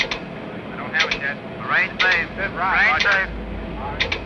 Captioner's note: radio chattering